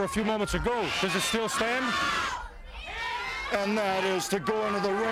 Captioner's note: crowd clamoring